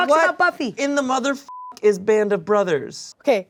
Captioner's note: beep